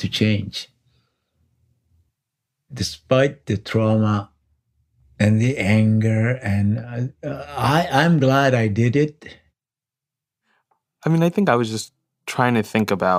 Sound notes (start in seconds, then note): none